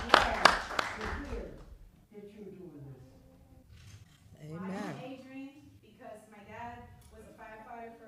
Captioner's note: applause